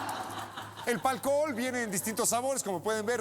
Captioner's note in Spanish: risas